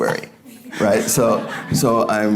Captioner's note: audience laughing